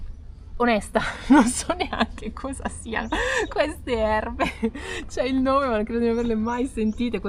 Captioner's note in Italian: risate